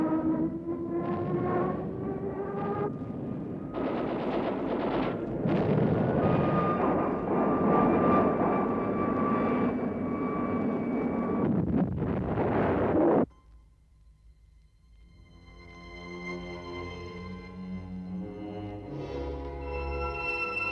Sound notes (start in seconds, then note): 0.0 plane engine roars; 3.6 gunfire; 3.8 plane engine roars; 16.1 dramatic music